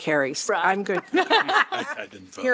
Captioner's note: laughter